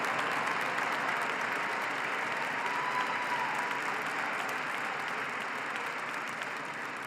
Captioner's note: applause